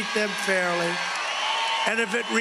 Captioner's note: cheering and applause